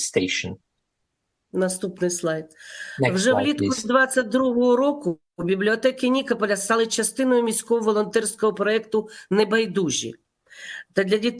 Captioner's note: foreign language